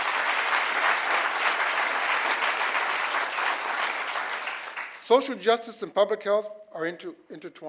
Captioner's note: applause